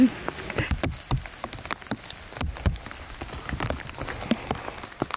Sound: rain falling heavily; laughing

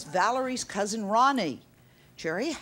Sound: none

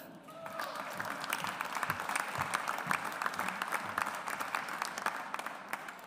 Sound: audience applauds

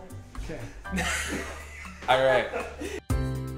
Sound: laughs

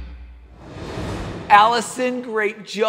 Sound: rock music; air swooshing

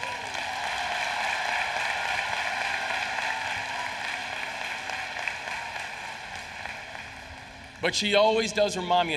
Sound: applause

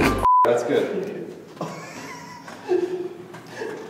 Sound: laughter hiccups; wheezy laughter

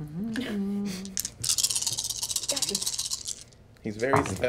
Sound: dice rattle

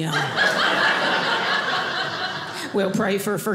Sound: audience laughing

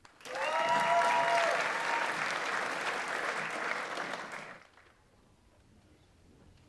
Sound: audience applauds; audience members cheer

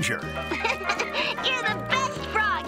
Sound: laughing

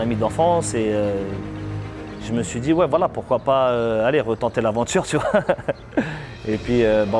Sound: laughs

